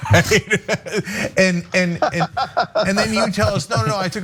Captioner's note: laugh